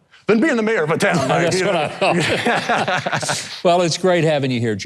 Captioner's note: both laughing